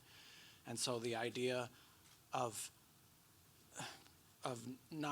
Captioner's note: sighs